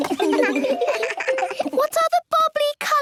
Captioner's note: giggles